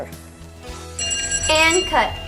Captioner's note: bell rings